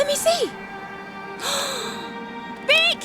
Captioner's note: gasping